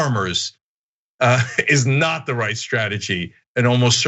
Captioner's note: laugh